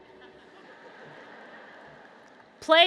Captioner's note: laughter